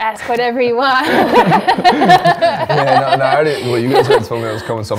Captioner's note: laughs